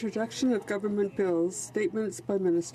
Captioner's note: speaking French